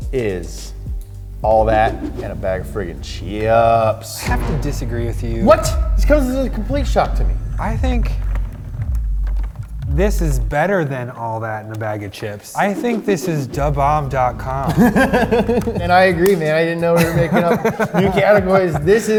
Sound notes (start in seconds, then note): 15.0 laughs